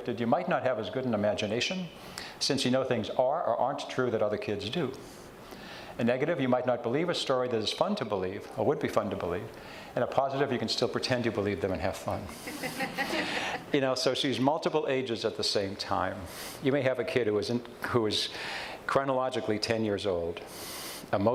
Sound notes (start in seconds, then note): 12.3 audience chuckles